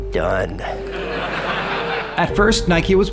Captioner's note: audience laughs